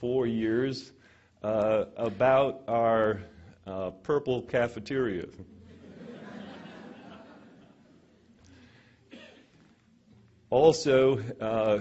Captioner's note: laughter